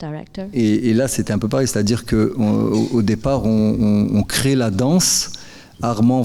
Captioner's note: speaking in French